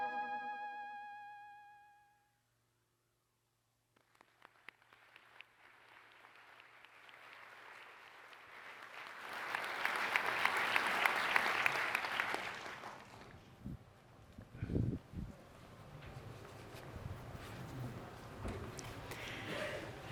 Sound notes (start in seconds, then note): 8.9 applause